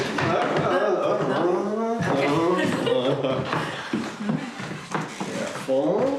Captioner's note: Jane laughing